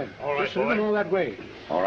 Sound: none

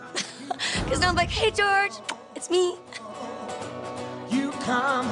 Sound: laughs; kisses

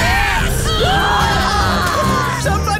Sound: screaming

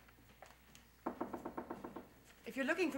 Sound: knocking on door

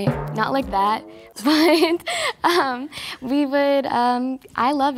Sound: chuckles

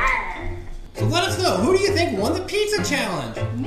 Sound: voiceover

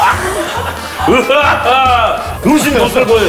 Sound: laughing

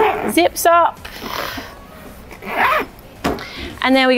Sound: zip hissing

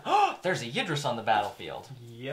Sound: gasp

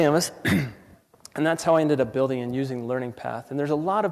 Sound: cough

